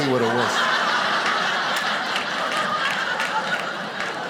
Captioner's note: audience laughing